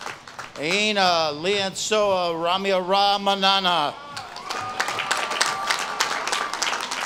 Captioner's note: audience claps and cheers